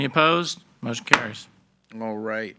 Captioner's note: gavel banging